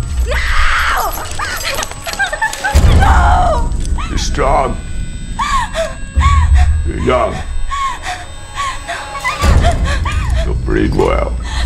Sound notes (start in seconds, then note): 0.3 sobbing; 5.4 rocky whimpering